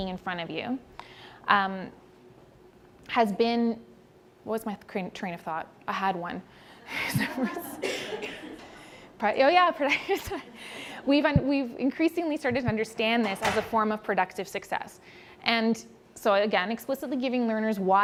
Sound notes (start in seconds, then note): 6.9 laughing